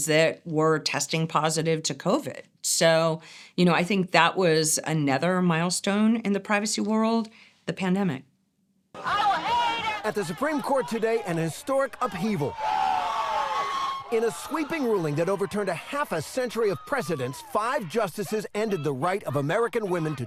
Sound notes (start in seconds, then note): 9.1 crowd chanting; 12.6 crowd cheering